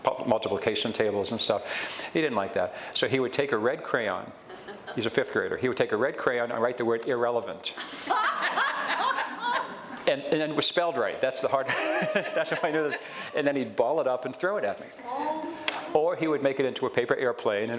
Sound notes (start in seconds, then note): 4.8 audience chuckles; 7.9 audience laughs; 11.7 laughs